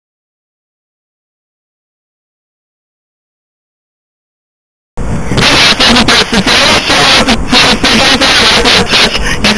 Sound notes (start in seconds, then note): 5.0 static noises; 5.0 static; 6.6 more static; 6.6 static; 6.6 static interference